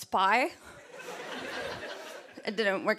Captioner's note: laughter